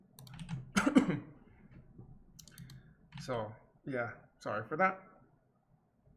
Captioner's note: coughs